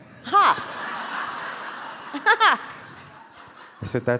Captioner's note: all laugh